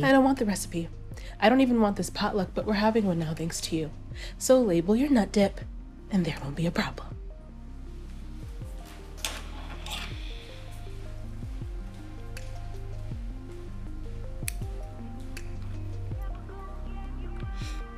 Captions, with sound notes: - I don't want the recipe. I don't even want this potluck, but we're having one now, thanks to you. So label your nut dip, and there won't be a problem. (scissors snip)